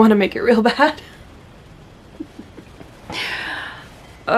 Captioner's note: laughs; laughs again